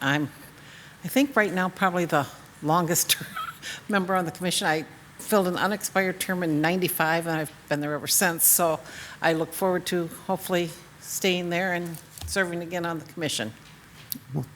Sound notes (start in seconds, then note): 3.2 chuckles